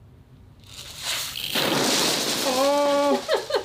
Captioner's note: peas pouring; laughing